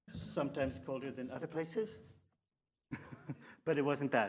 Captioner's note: giggles